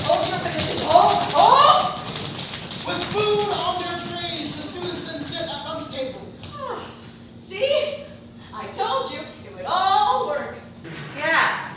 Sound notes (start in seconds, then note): 3.2 offstage voice reading stage directions